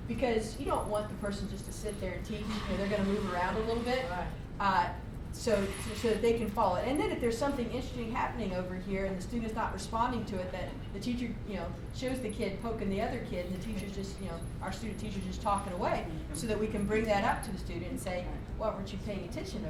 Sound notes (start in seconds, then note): 4.6 voiceover